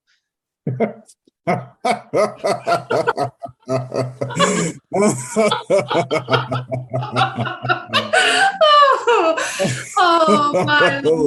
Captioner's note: Guard lets out a laugh. Catherine laughs along